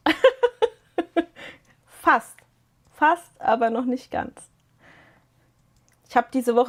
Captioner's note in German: gelächter